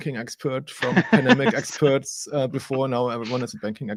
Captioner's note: laughing